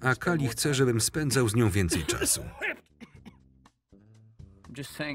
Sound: cough

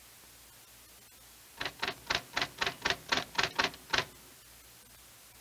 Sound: keyboard clacking

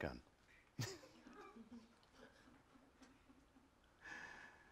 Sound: laughter

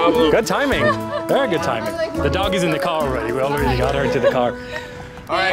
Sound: laughter

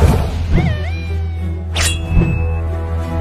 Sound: robot Noises

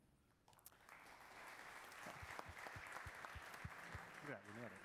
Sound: audience applause

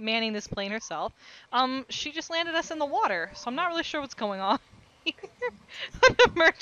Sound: chuckling

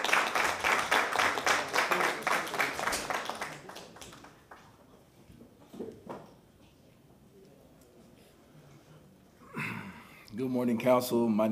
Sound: applause

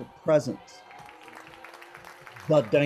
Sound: audience cheers, applauds

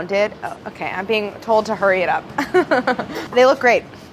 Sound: laughs

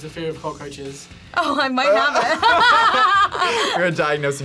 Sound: both laugh

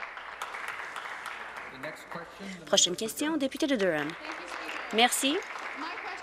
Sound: applause

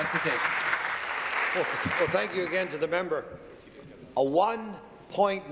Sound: applause

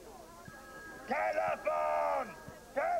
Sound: telephone rings

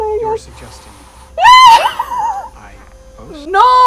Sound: screams

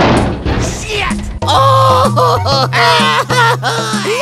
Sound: crying and panicking

